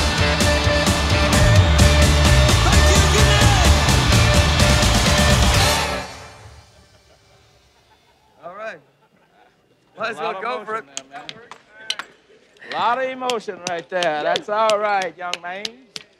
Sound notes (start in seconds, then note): 13.6 clapping